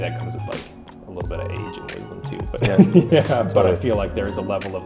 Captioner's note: chuckles